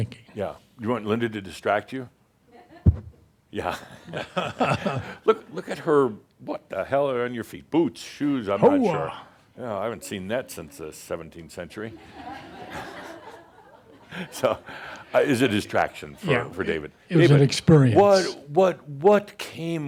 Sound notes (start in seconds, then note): 3.7 they chuckle; 11.9 laughter